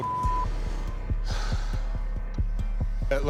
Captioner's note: sighs